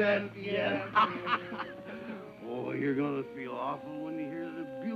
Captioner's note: laughs